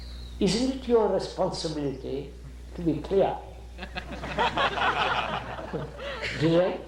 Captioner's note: laughter